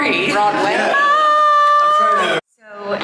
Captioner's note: yelling